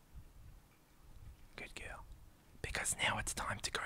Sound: whispers

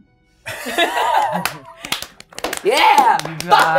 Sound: gamers clapping

